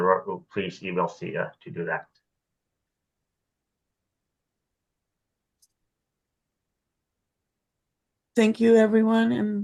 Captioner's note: off mic